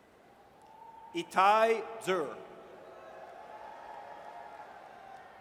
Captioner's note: audience cheers